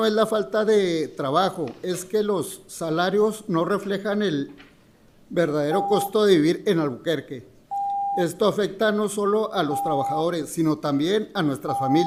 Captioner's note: speaking in spanish